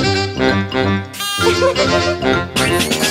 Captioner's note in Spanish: Música alegre; Risas